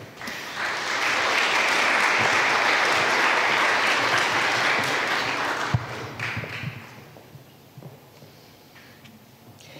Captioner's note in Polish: oklaski